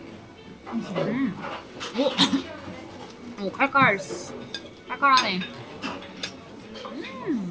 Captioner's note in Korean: 쿨럭